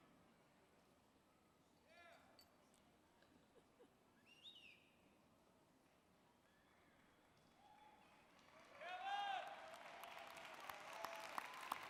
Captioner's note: cheering and applause